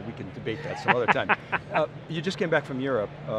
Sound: laughs

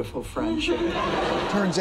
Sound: laughter

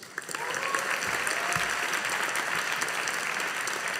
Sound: audience applauding

